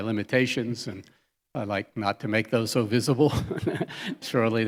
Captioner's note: chuckles